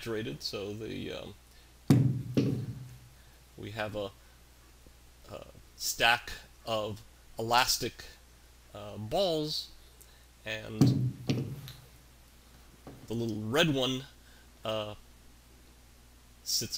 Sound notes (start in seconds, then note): 0.9 balls dropping; 7.1 ball dropping